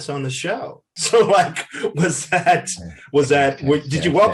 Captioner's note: Eric laughs